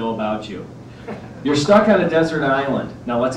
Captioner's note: laughter